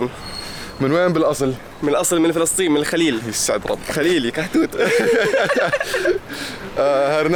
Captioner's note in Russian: смеётся